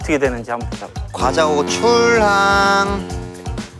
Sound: honk honk

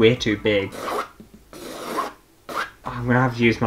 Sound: pen Scratching Canvas

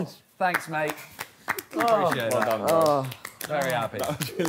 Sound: all clapping

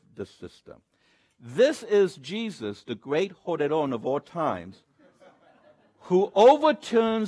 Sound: speaks Spanish

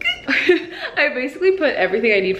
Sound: laughs

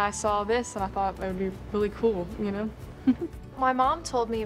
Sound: chuckles

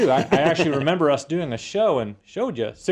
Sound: laugh

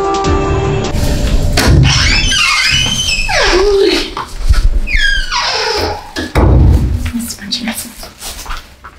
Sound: door opening and closing

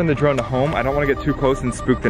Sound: drone rapidly beeping

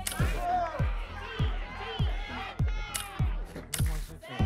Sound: audience shouting numbers

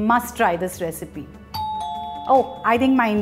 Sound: door bell

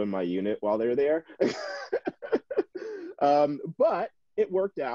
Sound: chuckling

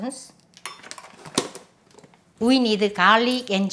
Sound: utensils tapping

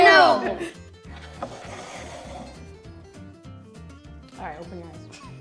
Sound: plate sliding on table

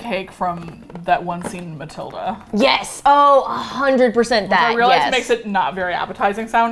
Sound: excitedly

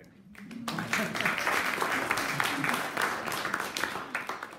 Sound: audience applauding

